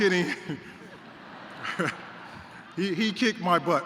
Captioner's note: laughter